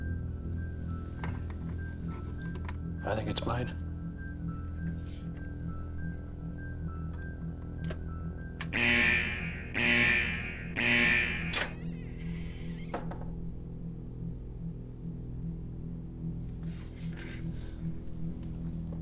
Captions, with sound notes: - I think it's mine. (suspenseful music continues) (alarm ringing) (lid squeaking) (suspenseful music continues)